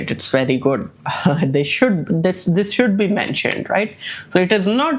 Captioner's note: laughs